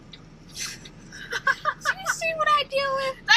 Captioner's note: laughing